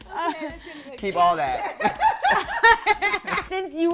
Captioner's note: laughter